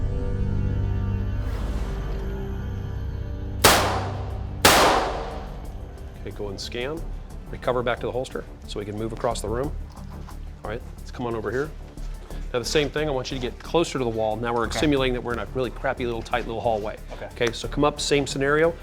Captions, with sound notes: (gun fire) Okay, go and scan. Recover back to the holster, so we can move across the room. Alright, let's come on over here. Now the same, I want you to get closer to the wall. Now we're exsimulating that we're in really crappy little tight little hallway. - Okay. - Okay, so come up, same scenario,